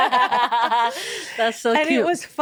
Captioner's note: all laughing